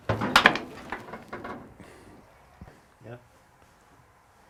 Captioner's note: door opening